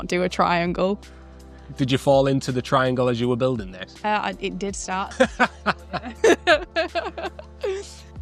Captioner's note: laughing